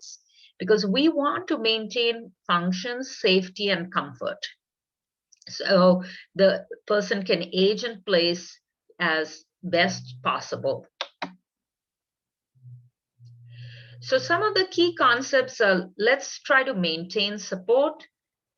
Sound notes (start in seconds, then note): 10.9 keyboard sound